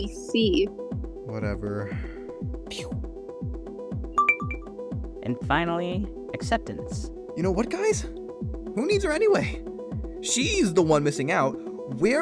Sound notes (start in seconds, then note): 4.2 ding